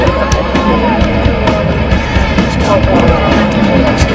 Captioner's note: cheering